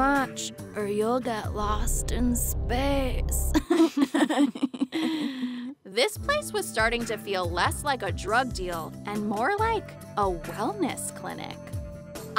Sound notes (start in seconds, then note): 3.6 laughs